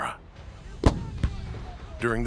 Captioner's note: soldiers shouting